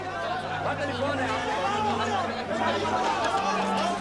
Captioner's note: arab spoken audio